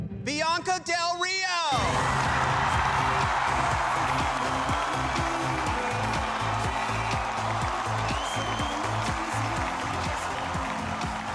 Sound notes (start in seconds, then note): 1.6 upbeat music; 1.7 cheering